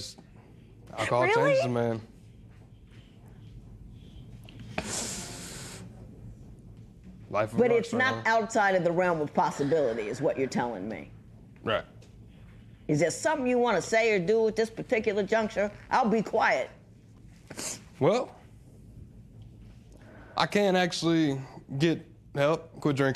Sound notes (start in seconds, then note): 3.1 sniffles; 17.5 sniffles